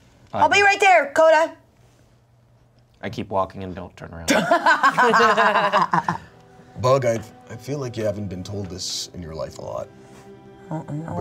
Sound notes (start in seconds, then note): 4.3 everyone laughs